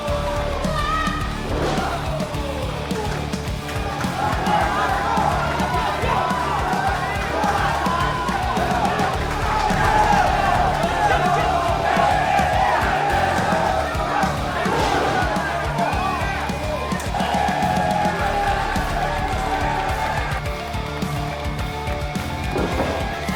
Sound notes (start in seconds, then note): 9.8 crowd is cheering; 13.3 crowd is yelling with excitement; 14.3 A loud slap as Mariposa delivers a flying kick; 15.3 Alex slams back hard against the mat; 18.6 crowd cheering very loudly